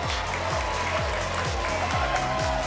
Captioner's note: applause and cheering cont